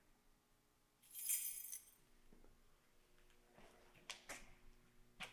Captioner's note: keys clanging